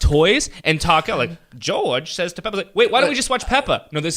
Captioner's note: mimics Peppa Pig